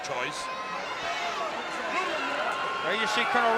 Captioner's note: spectators cheering